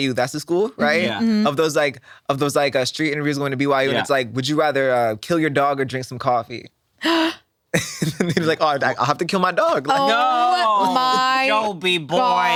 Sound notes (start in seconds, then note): 7.0 sighs